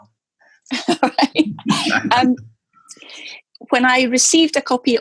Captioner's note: laughs